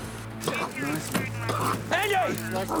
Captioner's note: suspenseful music; police radio chattering